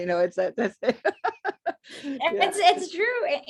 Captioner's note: laughter